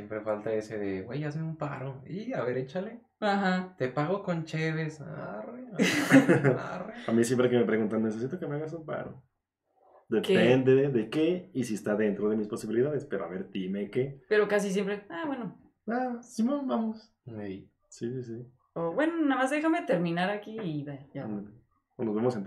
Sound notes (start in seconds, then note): 5.7 laughing & agreeing